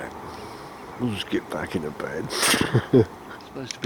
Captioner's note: laughter